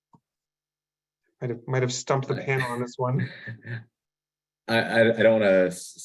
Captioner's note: laughs